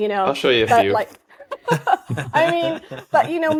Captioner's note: laughing